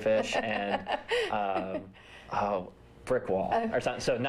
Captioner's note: laughter